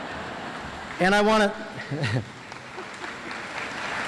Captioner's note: audience laughs; audience applauds; laughs